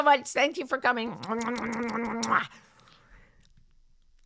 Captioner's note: blows kisses